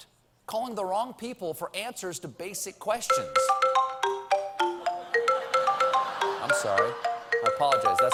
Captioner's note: phone ringing